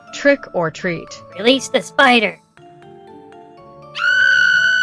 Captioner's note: whispering to Ollie